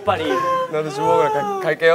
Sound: phew

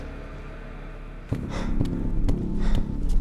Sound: panting

